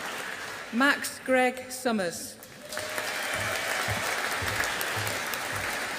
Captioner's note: audience applauding